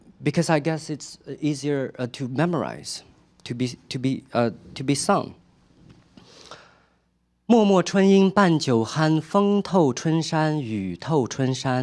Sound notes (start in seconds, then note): 7.4 speaking chinese